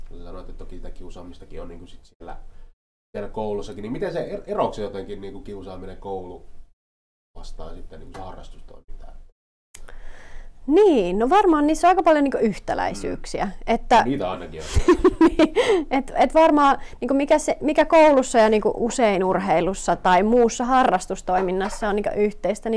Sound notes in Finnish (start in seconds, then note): 14.7 naurahtaa